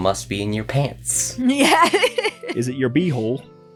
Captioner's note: laughs